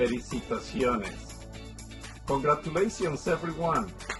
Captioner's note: applause